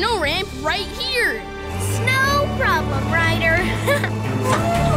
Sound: chuckles

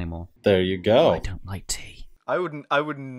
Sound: frightening voice

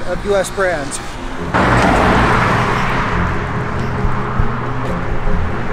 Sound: car engine revving

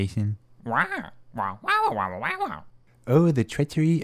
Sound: squawk

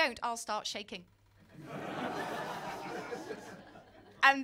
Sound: laughter

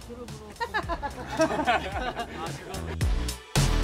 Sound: haha

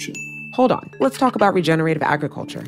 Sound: bell dings

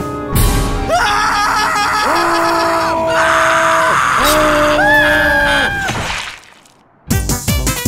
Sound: screaming

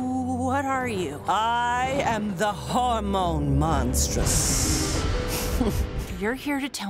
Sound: chuckling

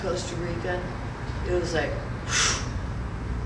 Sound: blows

